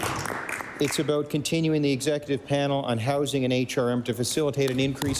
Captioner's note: applause